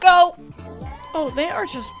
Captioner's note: upbeat music; show contestants cheering